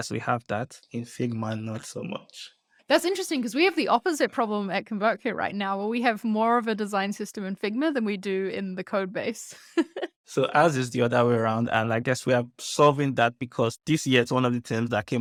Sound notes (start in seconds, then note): 10.3 chuckles